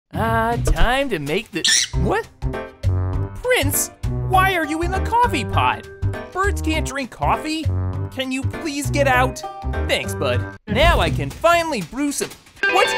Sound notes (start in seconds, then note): 1.6 squawking